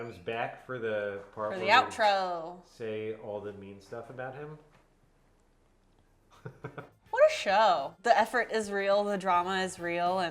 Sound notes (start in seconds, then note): 6.3 chuckles